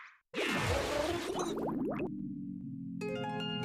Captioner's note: bubbling